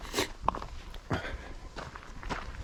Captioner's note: sniff